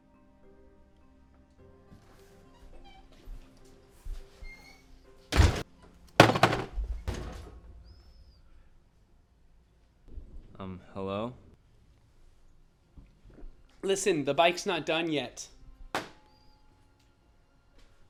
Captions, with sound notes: [DOOR CLOSES] [CLATTERS] Um, hello. Listen, the bike's not done yet.